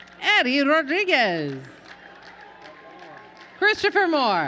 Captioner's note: applause